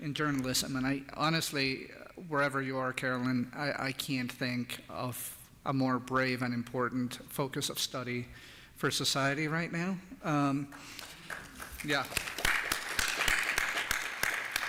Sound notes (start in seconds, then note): 10.7 applause